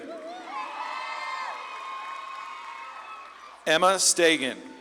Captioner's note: audience claps and cheers